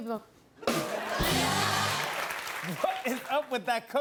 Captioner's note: laughter and applause